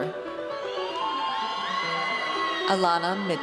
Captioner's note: audience cheers